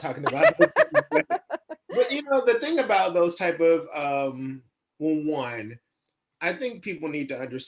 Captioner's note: laughs